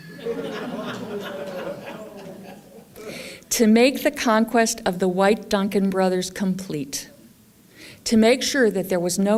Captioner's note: laughter